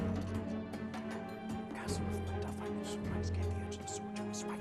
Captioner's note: whispering